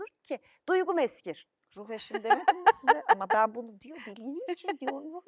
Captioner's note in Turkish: kahkaha